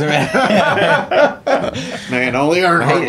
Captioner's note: laughing